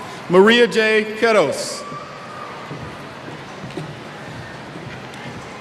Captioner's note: cheers